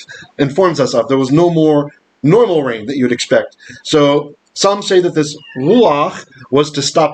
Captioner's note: Hebrew